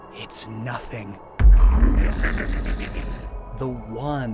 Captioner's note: Regigrimm’s cry